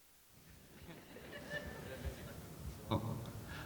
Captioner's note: audience chuckling